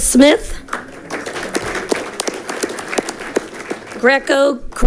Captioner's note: audience clapping